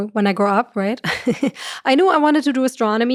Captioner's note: chuckles